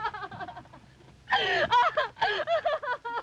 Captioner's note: Gwen sobbing